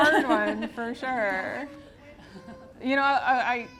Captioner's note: audience laughs